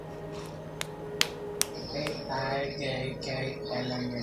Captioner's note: hand punching